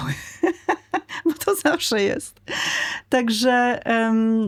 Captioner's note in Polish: śmiech; wciągnięcie powietrza